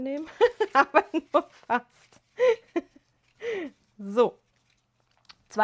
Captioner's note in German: gelächter